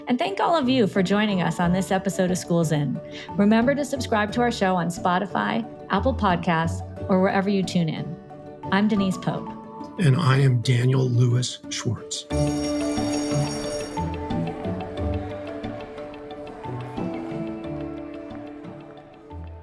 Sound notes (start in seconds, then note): 12.3 bell ringing; 14.2 upbeat music